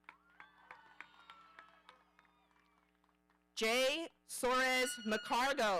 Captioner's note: audience cheering